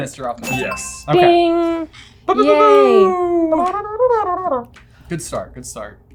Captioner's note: airhorn noises